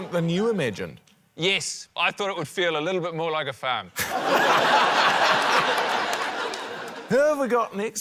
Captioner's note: laughter